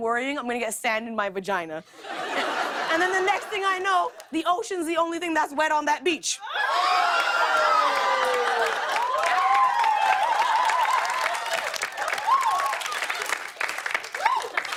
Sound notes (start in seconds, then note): 6.4 audience shouts; 9.3 cheers and applause; 14.3 laughs